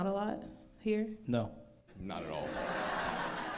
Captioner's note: crowd laughs